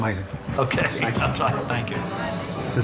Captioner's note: laughing